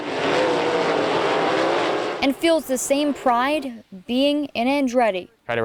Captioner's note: racing sounds